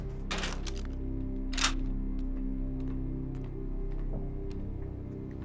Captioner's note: gun snapping